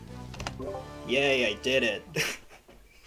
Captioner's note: laughs